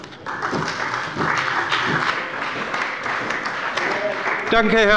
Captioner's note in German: Beifall bei der CDU und dem BÜNDNIS 90/DIE GRÜNEN